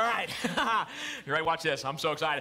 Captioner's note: laughs